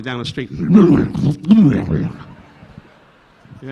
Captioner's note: Don glugging alcohol